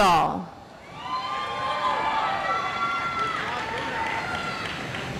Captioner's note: audience applauds